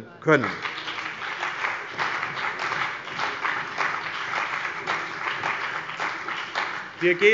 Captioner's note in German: Beifall bei dem BÜNDNIS 90/DIE GRÜNEN und der CDU